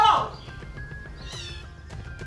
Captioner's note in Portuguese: gato miando